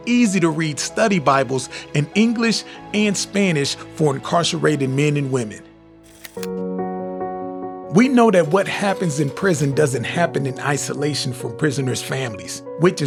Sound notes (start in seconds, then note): 6.0 logo clicks; 6.3 gentle music